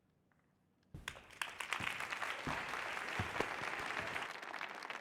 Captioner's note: audience clapping